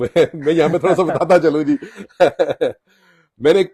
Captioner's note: laugh